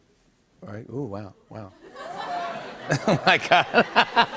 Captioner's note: laughter